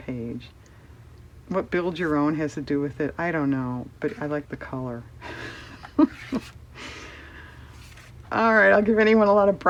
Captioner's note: laughs